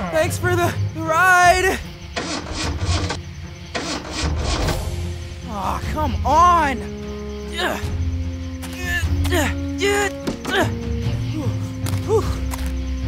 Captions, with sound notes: Thanks for the ride. [ENGINE SPUTTERING] Oh, come on. [PANTING] Oh!